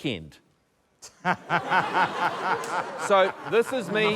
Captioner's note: laughter